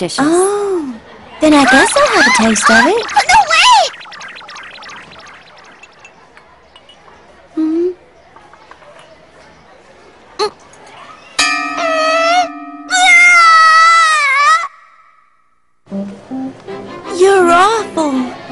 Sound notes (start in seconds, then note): 12.8 Osaka screams